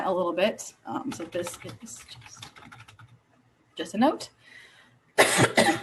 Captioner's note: coughing